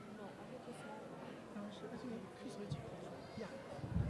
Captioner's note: chattering